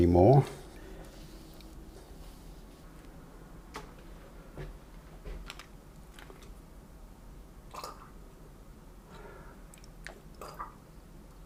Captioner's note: silence